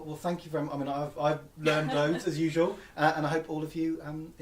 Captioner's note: laughs